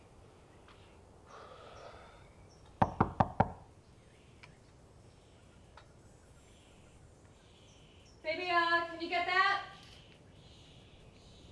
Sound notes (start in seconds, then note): 1.3 sighs; 2.8 knocking